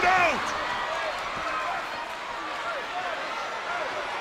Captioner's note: crowd yelling